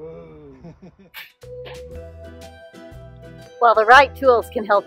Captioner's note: laughs